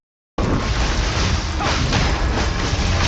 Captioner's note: Enderman whooshes; magical strikes whooshing